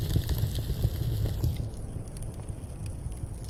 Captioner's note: fire crackling louder; fire crackling muffled